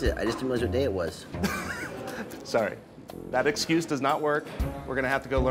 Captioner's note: scoffs